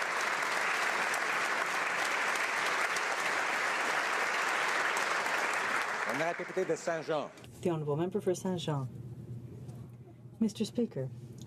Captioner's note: applause